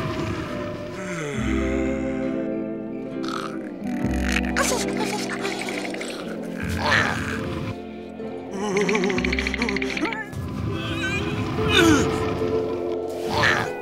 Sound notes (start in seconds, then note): 3.2 snoring; 4.4 shivering; 6.1 grunting; 8.1 shivering; 9.7 grunting